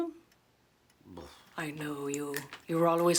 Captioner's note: Rene scoffs